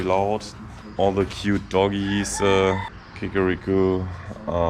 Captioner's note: cock-a-doodle-doo